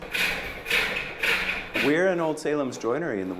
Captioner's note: machine whirring